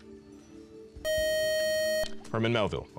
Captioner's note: time up buzzer